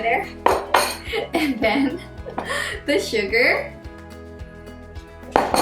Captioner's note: laughs